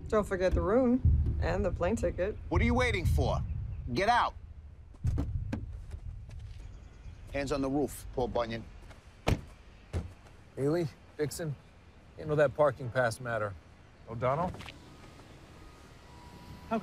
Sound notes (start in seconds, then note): 5.0 car door clunks; 9.2 car door slams; 14.6 car window whirs